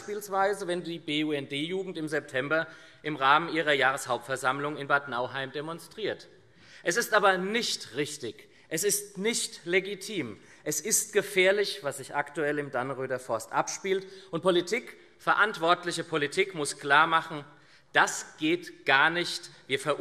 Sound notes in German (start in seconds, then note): none